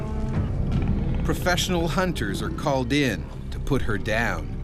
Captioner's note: voiceover